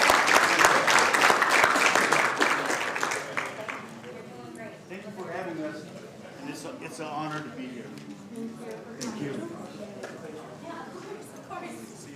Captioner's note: applause